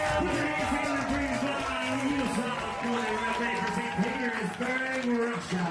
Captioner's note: dramatic music; people applauding